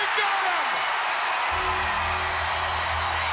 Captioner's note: crowd cheers; bell rings; bell tolls